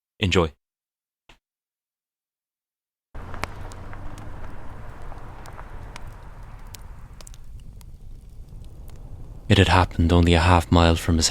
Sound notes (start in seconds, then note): 3.1 sound of car driving away